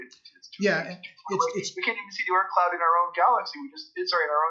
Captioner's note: multiple voices